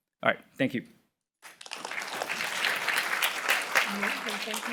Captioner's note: applause